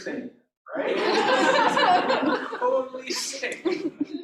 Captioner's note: laughter